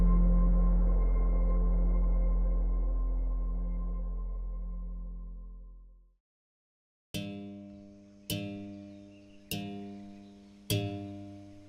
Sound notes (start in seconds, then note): 6.6 silence